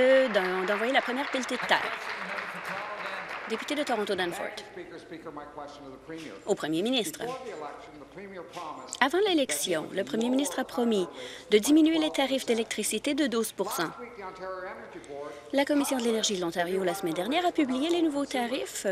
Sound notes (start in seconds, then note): 3.6 applause